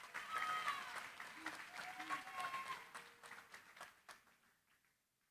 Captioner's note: cheering, applause